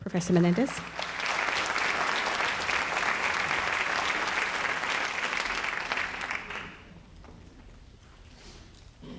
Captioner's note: audience clapping